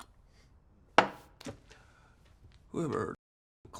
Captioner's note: glass thuds